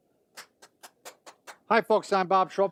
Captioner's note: clapping